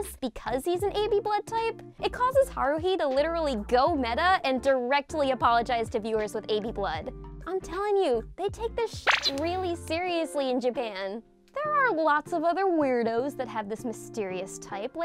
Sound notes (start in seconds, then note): 9.1 beep